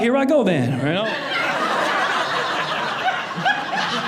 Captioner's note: audience laughing